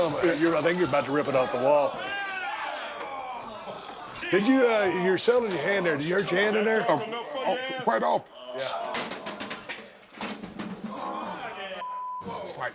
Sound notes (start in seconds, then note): 8.9 object clanking; 11.8 beep